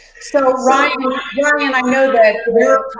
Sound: microphone static

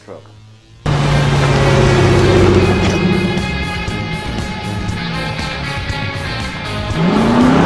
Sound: engine revving; dramatic music

